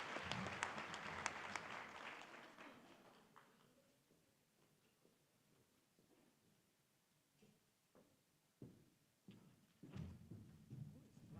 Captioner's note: applause